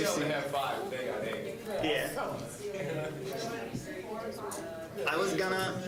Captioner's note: general chatter